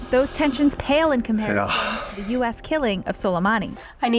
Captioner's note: sighs